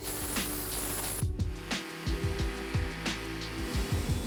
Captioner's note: air wooshing; mellow music; sander buzzing